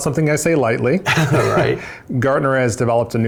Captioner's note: laughs